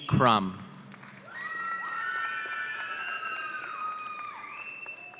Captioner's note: audience cheering